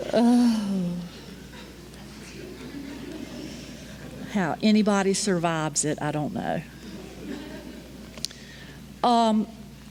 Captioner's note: sigh